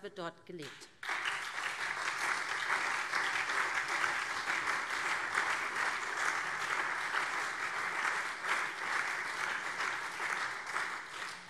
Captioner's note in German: Beifall SPD, CDU und vereinzelt BÜNDNIS 90/DIE GRÜNEN